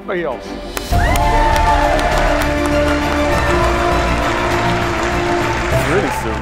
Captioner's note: applause and cheers